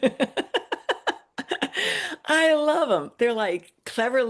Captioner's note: laughs